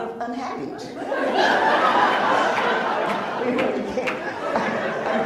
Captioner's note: laughs